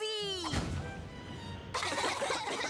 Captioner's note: poof; coughing